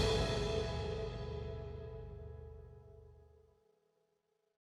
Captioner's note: logo whooshes